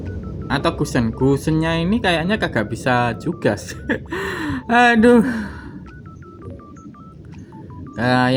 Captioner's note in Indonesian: tertawa; terkesiap